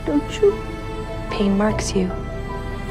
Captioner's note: voiceover